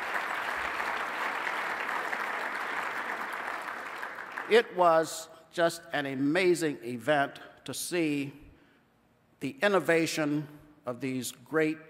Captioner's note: applause